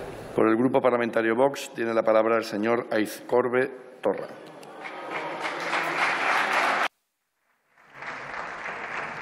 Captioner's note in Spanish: Aplausos